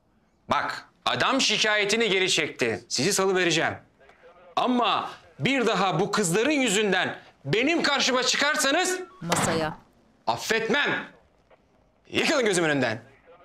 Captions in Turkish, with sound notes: Bak, adam şikâyetini geri çekti. Sizi salıvereceğim. Ama bir daha bu kızların yüzünden benim karşıma çıkarsanız... (Vurma sesi) ...affetmem! Yıkılın gözümün önünden!